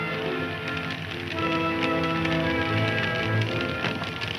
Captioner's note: fire crackling